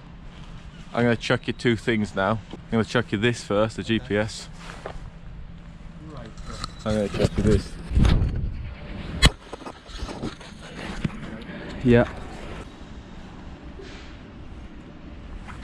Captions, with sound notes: I'm going to chuck you two things now I'm gonna chuck you this first, the GPS. Great throw And I'm gonna chuck you this. (loud shuffling) Yep.